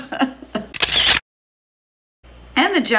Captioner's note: camera shuttering